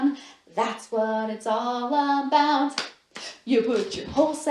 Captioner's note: clap, clap